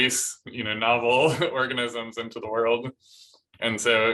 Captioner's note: laughter